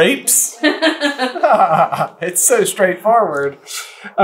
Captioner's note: laughter